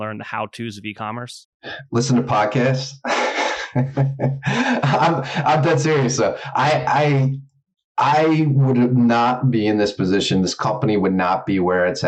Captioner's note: laughs